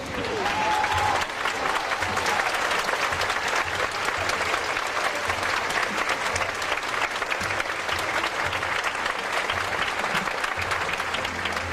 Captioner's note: audience Applause